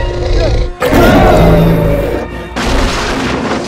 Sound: Tyrannosaur Growl and Crash Sounds

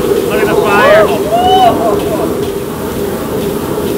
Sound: food frying; all exclaiming

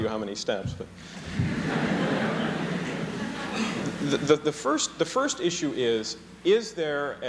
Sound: laughter

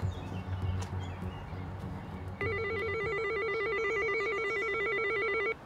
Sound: doorbell ringing

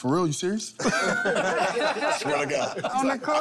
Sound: laughter

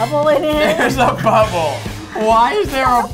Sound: laughs

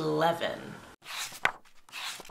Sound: pages turning

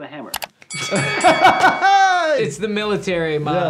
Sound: bell dinging; laughing

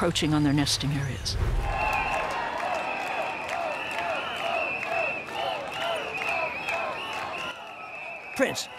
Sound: crowd protesting

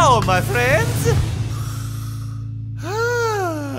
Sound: inhales

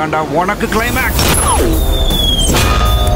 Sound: gunshot

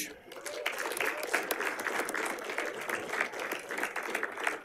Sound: audience applauding

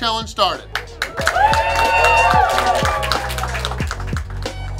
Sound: cheering & Clapping

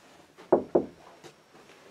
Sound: knocks on door

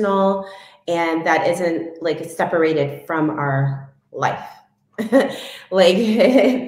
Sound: chuckles

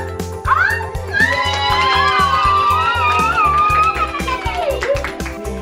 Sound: excited squealing

